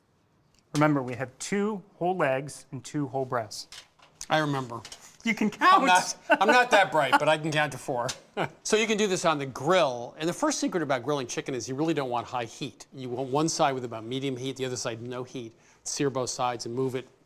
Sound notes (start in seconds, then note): 5.6 laughing